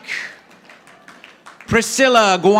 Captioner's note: audience applauding